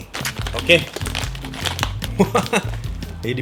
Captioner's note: laughs